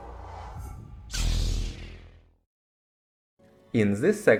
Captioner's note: Sith lightsaber sound